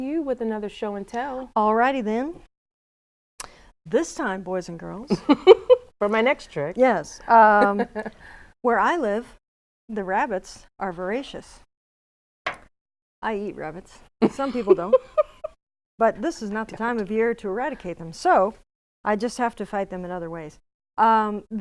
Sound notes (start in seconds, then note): 7.5 laughs; 14.2 laughing